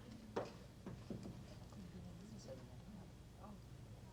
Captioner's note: chatter